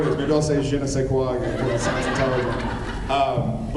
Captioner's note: laughs